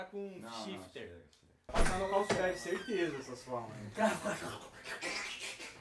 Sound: indistinct chatter

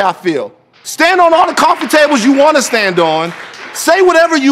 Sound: TMZ Applauds

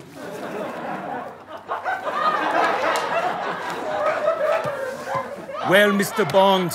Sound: audience laughter

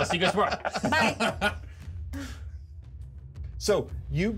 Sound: laughs; speaker laughs

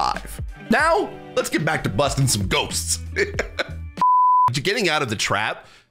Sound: laughs

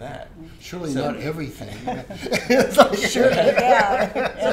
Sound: laughs

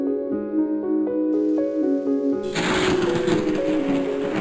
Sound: lightning

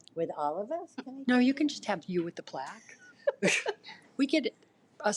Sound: laughs

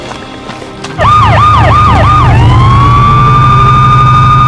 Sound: sirens blaring

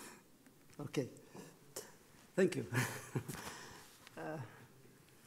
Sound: laughs

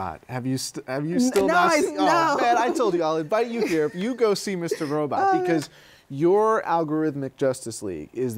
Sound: laughs

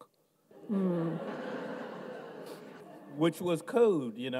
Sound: audience laughs

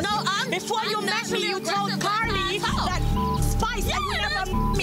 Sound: beep

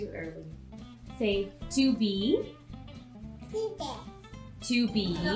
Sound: baby talk

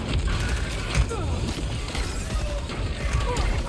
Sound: weapons firing

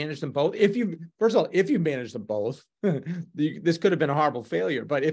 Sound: chuckles

